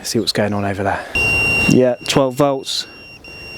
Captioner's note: beeping